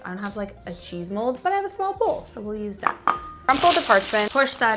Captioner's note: bowl clangs